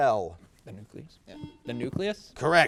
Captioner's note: buzzer beeps